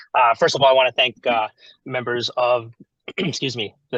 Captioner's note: clears throat